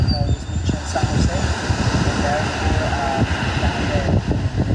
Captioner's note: waves crashing